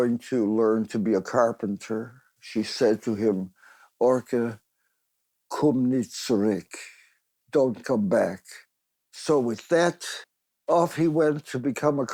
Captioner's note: in Yiddish